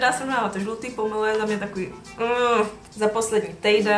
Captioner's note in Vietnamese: ugh